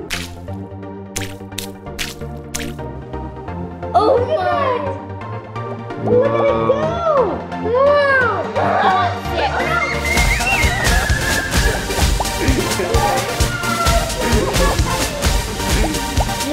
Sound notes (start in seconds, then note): 0.2 fun music; 0.2 tablets dropping; 8.6 energetic music; 8.6 kids screaming